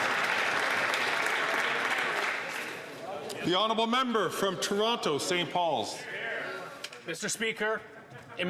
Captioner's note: some Applause